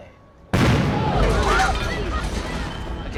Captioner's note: explosion